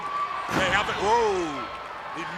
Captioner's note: body thudding